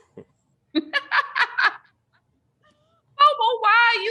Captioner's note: Bobo chuckles; laughs